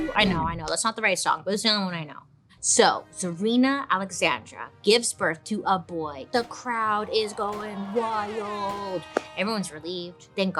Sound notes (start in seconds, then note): 6.4 crowd cheering; 8.0 horn blaring